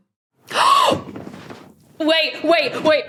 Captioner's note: gasps loudly